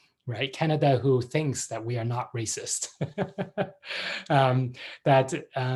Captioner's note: laughs